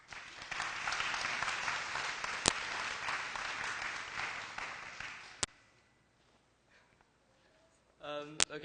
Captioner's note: applause